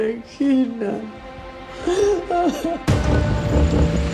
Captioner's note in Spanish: Sollozos